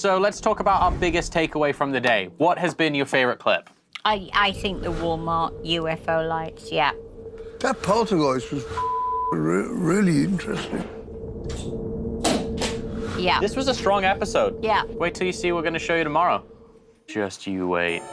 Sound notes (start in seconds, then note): 11.8 clanking